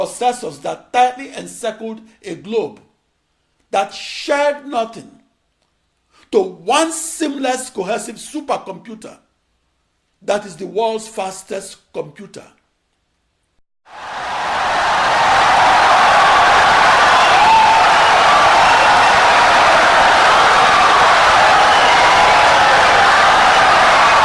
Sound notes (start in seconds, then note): 13.9 wild applause and cheering for 17 seconds